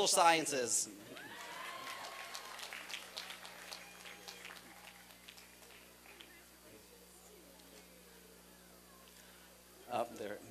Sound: applause and cheering

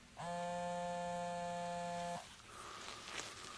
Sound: phone vibrating

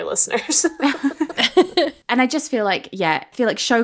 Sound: both laughing

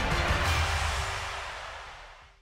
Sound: energetic instrumental music; crowd cheering

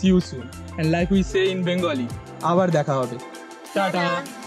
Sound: speaks in Bengali

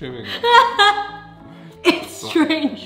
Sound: laughing

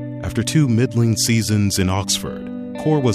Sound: somber piano music; voiceover

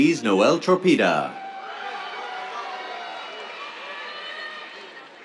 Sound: cheers

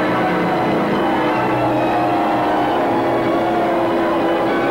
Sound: crowd cheering

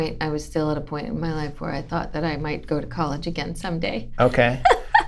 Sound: laughter

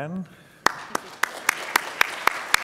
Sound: audience claps

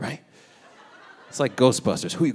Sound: audience laughing

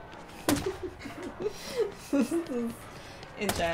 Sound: laughing

